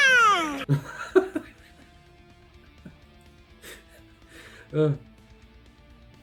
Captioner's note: laughs